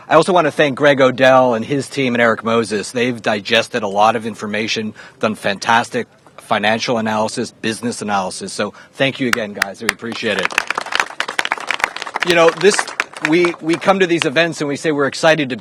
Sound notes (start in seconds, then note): 12.1 applause